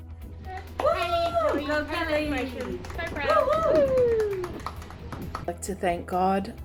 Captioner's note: clapping